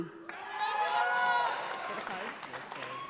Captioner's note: audience applauding